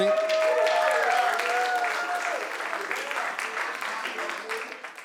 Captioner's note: cheers and applause